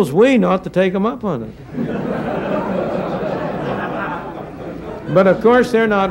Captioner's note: laughter